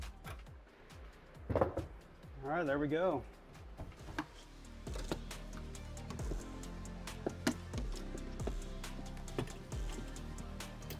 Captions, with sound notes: All right, there we go. (upbeat music) (tools clanking)